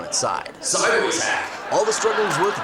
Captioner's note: deep Voice